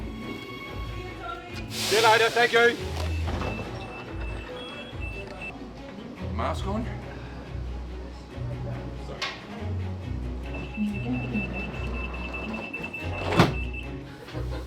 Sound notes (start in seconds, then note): 3.5 doors beeping; 10.4 sliding door beeps